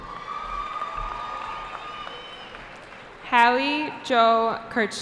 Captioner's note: cheering